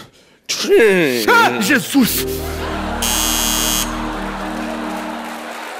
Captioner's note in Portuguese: campainha